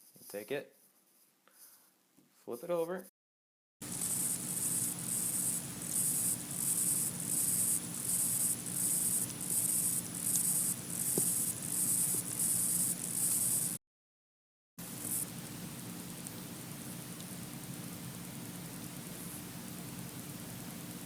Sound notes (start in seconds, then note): 3.8 high pitch scratching; 14.7 high pitch clicking